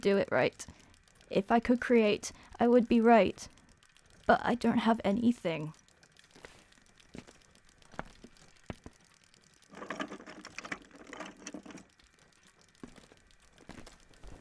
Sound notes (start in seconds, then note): 9.2 sable rummages through tools